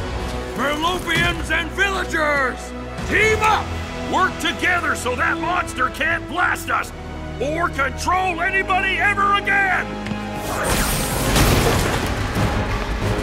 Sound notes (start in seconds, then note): 10.4 zaps